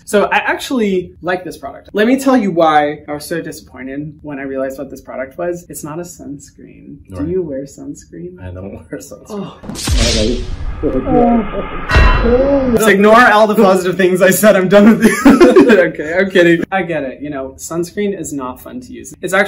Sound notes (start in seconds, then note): 9.4 he groans; 9.6 GTA death sound; 14.9 laughter